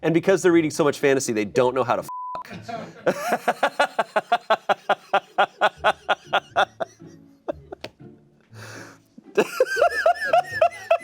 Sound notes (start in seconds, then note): 2.1 beep; 2.6 laughs